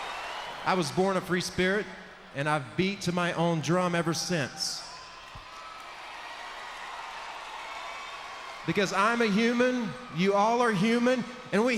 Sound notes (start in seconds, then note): 5.2 crowd cheers